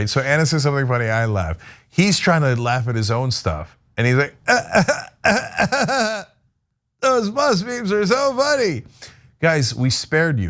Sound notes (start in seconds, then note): 4.4 laugh